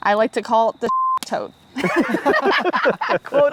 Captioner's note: group laughs